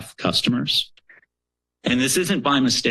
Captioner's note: pause